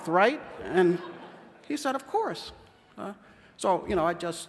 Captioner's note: laughter